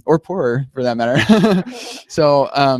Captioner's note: laughter erupts